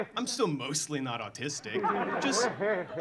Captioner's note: audience laughing